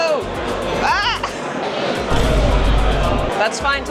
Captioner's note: boom